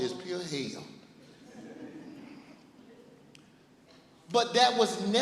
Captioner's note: laughing